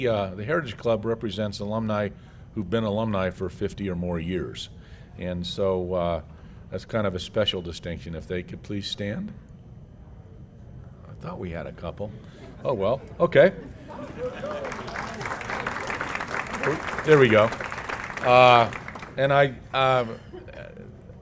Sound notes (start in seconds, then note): 13.5 laugh; 13.9 applause